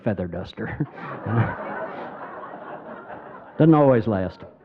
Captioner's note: crowd laughing